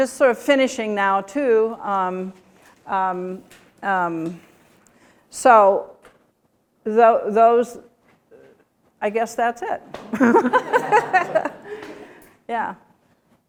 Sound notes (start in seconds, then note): 10.0 laughter